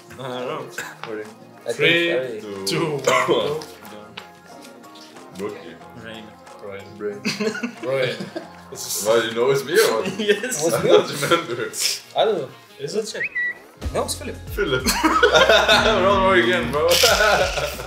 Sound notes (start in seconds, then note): 7.2 person laughs; 14.6 people laughing